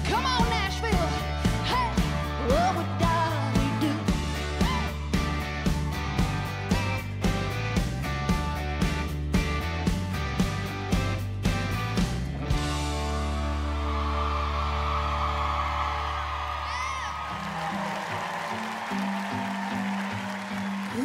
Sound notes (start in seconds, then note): 6.1 upbeat country music; 13.5 audience cheering and applauding; 17.8 mellow country music